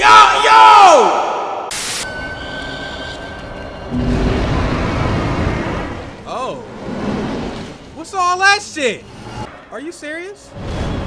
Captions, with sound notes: (yelling) (static) (supernatural roaring) Oh, what's all that shit? Are you serious?